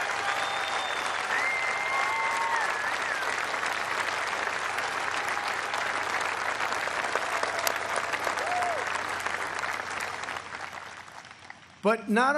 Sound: applause

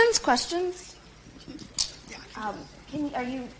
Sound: murmurs

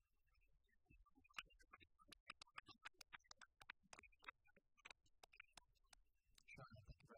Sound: applause

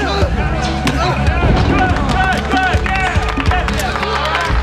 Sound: fans cheering

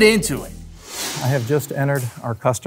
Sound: swift whooshing sound

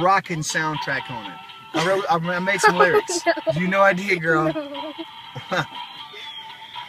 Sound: child laughing; laughter

